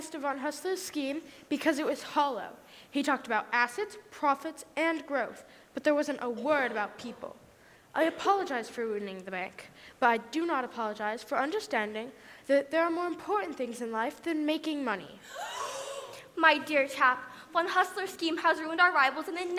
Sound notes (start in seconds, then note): 15.2 gasp!